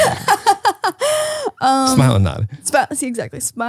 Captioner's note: laughs